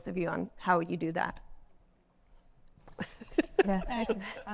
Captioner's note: panelists laugh